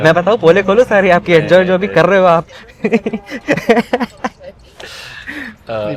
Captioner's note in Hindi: हंसी